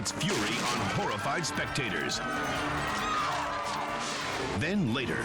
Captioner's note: people yelling